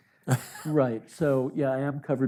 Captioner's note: chuckles